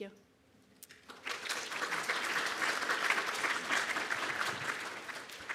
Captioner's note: audience clapping